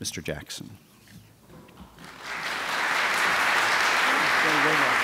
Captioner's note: audience applauds